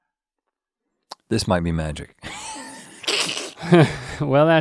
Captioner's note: Rhett chuckles